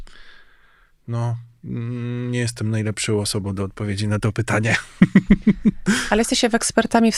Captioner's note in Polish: śmiech